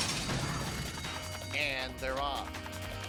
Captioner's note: hooves pounding